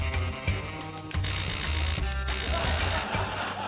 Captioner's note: lasers buzz